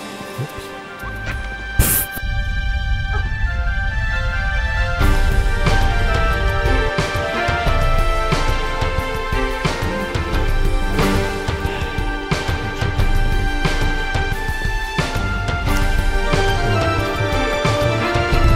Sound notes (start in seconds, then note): 11.5 exhales